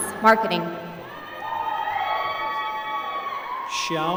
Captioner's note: applause